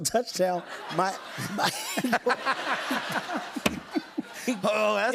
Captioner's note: laughter